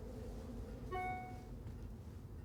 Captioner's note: chimes